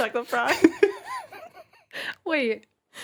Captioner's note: laughing